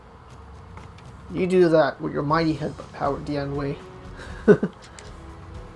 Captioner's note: chuckles